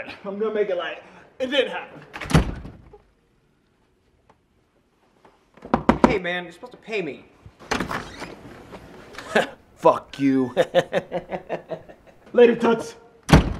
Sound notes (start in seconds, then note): 10.2 chuckling